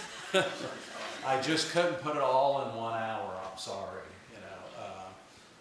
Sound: laughter

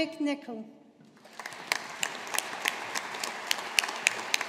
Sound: audience applauding

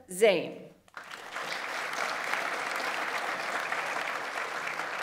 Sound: audience applauds

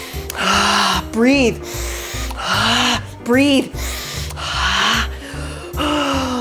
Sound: breathe; breathe

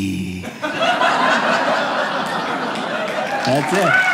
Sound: audience applauding

